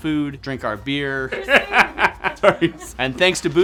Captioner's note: laughing